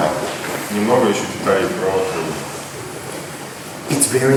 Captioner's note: speaking in a foreign language